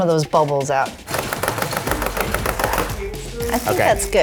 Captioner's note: pan tapping